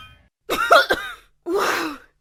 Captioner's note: coughing